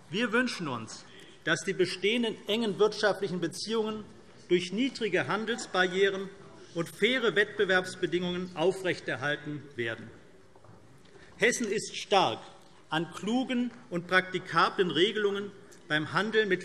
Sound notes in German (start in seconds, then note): none